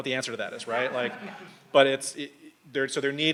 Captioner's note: audience laughs